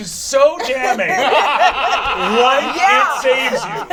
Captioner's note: all laugh